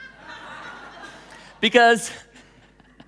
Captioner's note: laughing